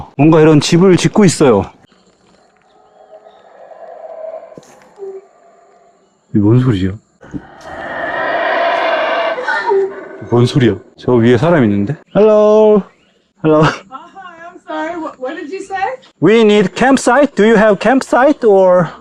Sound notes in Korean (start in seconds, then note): 2.4 동물의 울음소리; 7.2 더 커진 동물의 울음소리